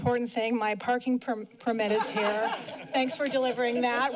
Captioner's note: laughter